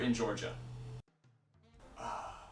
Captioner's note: silence